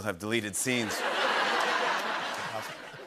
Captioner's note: laughter